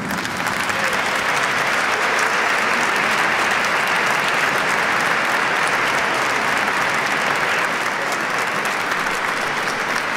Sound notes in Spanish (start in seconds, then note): 3.3 aplausos